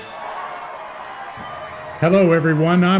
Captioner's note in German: Menge Beifall